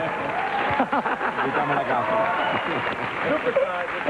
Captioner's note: applause